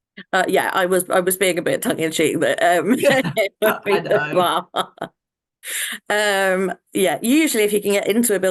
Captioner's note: both laugh